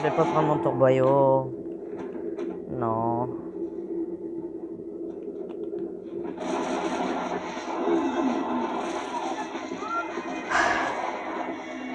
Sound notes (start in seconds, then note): 3.8 sounds of composure and shots; 10.5 sigh of relief